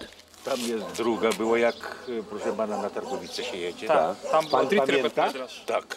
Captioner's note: speaking Polish